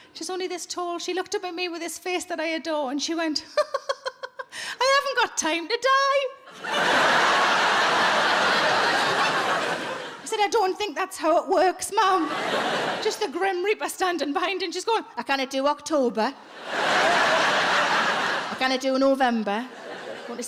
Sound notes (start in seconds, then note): 3.6 laughing; 6.5 audience laughing; 16.4 audience laughing